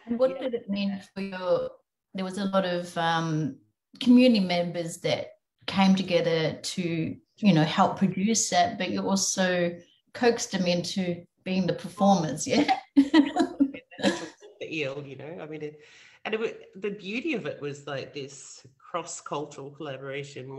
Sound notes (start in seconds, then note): 12.6 laughs